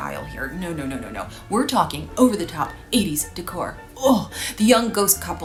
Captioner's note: groans